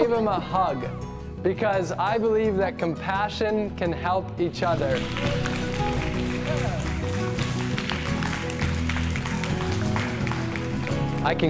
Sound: applause

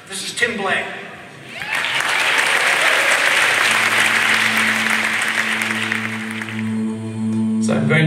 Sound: applause

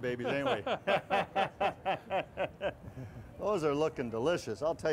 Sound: relaxed chuckles

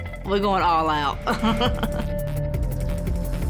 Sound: chuckles

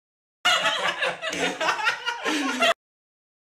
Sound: laughing

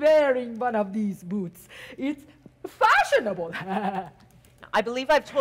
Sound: softly chuckles

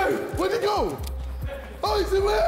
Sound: group yells

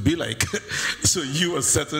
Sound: laughs

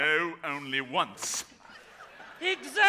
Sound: audience laughs

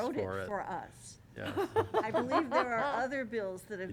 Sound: laughter

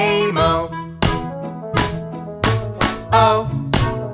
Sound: claps

